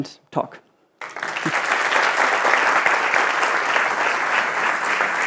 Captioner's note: audience applauding